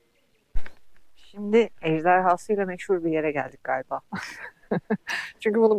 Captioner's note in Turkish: kahkaha